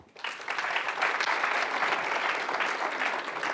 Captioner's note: clapping